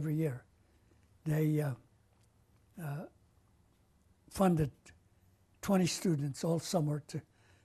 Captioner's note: pauses for 3 seconds